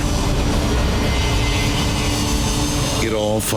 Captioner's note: airplane engine whirring